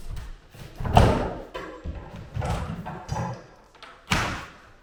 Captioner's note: wood boards clanging